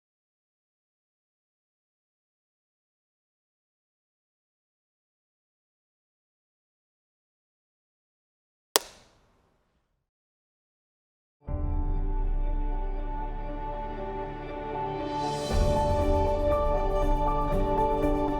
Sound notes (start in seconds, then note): 8.8 graphic clacks; 12.3 bright gentle music